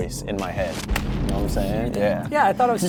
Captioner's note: bomb exploding